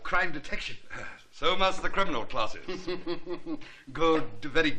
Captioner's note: chuckl|ng